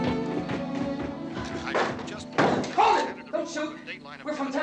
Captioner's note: man on radio continues announcing